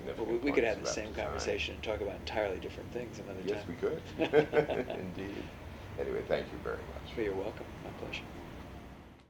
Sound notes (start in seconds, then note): 4.0 laughter